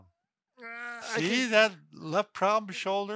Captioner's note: grunting